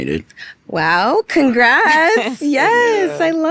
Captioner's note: giggling